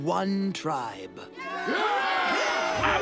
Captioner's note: cheering